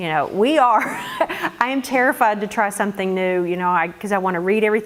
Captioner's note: laugh